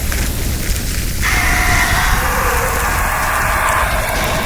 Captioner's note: John screams